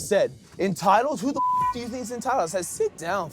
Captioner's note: beep